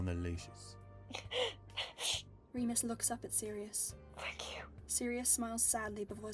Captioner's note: crying breath